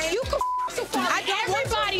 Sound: beep

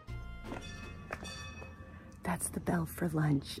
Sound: bell rings

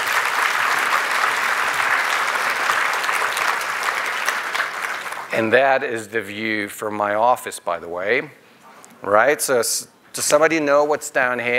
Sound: applause

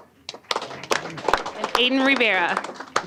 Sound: applause

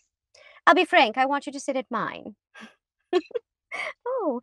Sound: chuckles

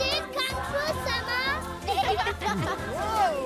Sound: bleating, laughing

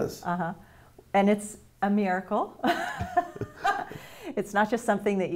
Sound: laughs

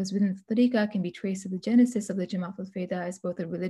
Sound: speaking arabic

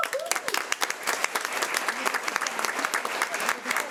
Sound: audience applauding

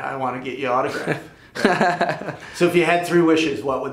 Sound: laughs

